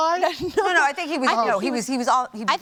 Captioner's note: chuckles